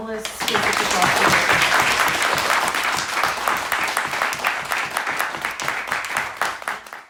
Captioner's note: applause